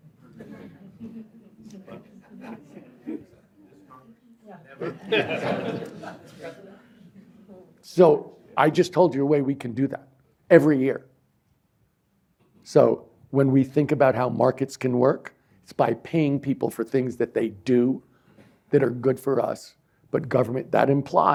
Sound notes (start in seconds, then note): 0.1 indistinct chatter; 4.8 laughter